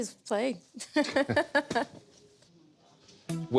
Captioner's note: laughter